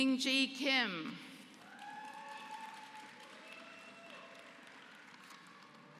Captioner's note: applause